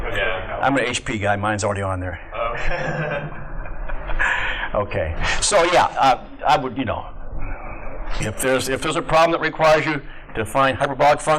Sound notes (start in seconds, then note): 2.5 laughter